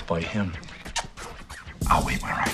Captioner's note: smooches